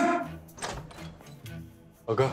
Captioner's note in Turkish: Kapı Açılıyor